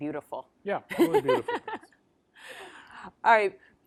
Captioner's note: laughs